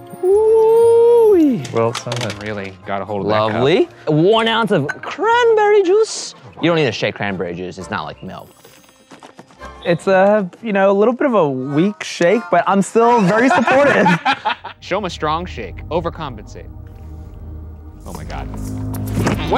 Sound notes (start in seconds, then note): 13.1 laughing